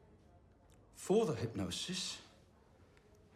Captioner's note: none